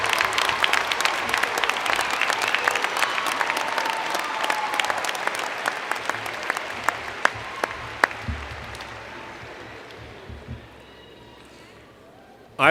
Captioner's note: cheers and Applause